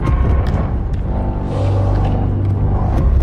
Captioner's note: thumping